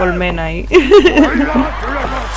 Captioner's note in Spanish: risas